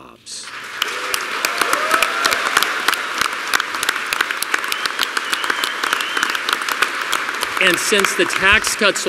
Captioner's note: applause